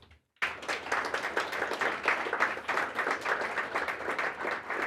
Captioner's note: applause